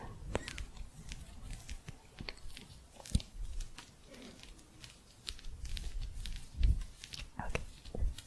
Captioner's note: gentle scratching